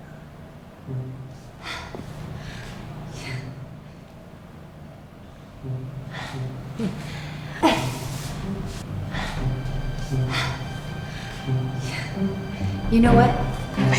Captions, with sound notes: (Lucy grunting) You know what?